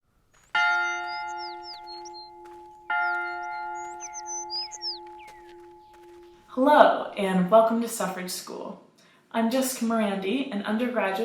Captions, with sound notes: [school bell rings] - Hello, and welcome to Suffrage School. I'm Jessica Morandi, an undergraduate